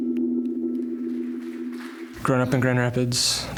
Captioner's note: bright, ambient tonal music; applause